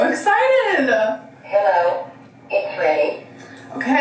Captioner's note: automated Voice